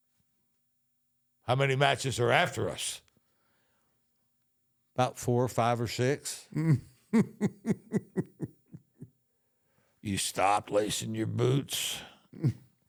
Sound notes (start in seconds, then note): 7.1 The Undertaker giggles